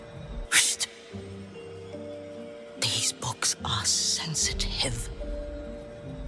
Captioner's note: whispers